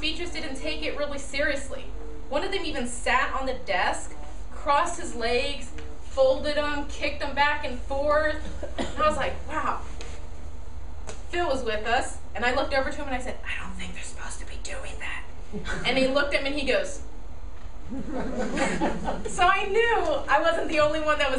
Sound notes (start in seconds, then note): 13.2 whispering; 17.9 audience laughing